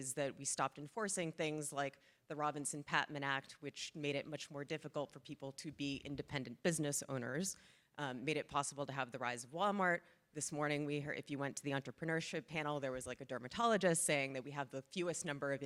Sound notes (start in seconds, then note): none